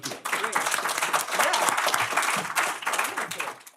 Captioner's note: applause